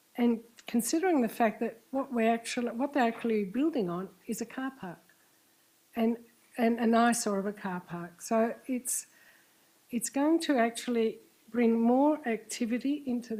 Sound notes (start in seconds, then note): none